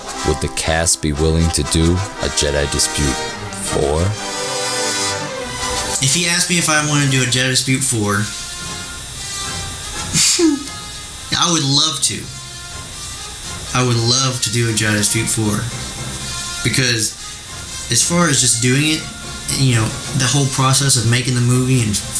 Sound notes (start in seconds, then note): 10.1 chuckles